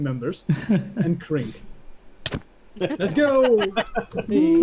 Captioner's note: laughs; punches